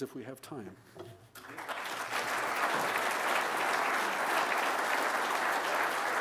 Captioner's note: applause